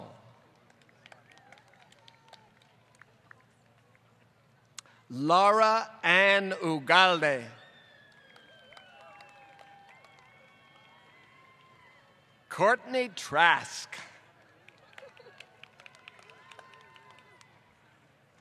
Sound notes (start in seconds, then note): 0.3 applause; 7.5 applause; 14.8 applause